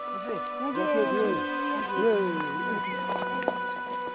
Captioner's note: speaking foreign language; soft music